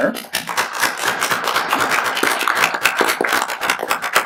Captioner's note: applauding